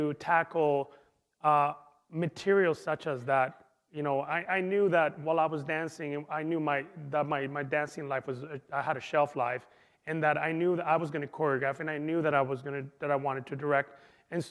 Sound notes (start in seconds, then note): none